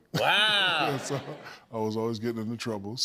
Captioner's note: laughter